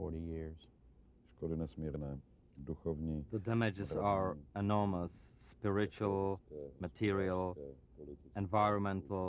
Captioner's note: through translator